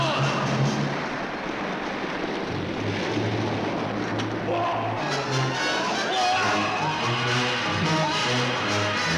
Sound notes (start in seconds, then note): 2.7 suspenseful orchestral music continues; 5.6 men yelling